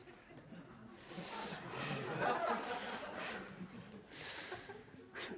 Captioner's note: audience laughter